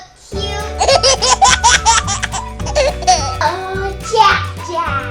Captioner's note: laughs